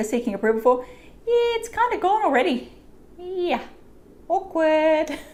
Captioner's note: laughs